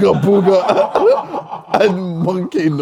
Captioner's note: audience laughs; laughs